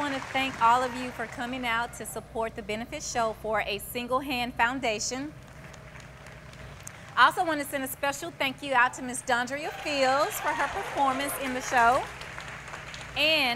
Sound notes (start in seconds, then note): 5.5 applause